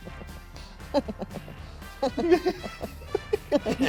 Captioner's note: laughs; continues to laugh; laughs